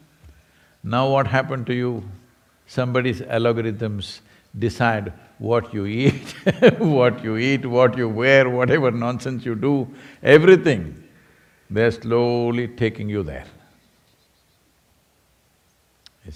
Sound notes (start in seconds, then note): 6.0 laughs